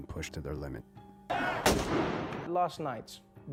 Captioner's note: blasting; yelling